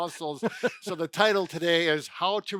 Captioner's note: laughing